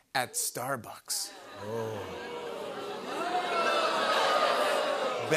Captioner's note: audience "Oohs"